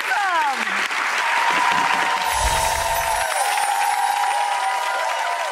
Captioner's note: audience applauding and cheering